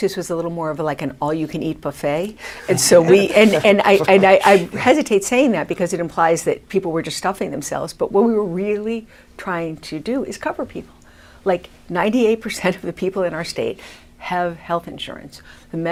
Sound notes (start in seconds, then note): 2.6 laughs